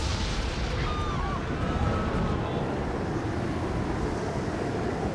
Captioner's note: woman screams